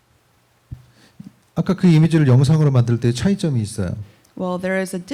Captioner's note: speaking korean